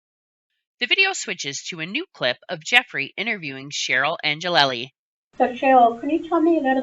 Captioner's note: voiceover